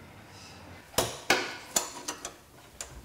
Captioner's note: metal clacking